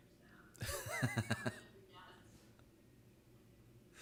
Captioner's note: laughing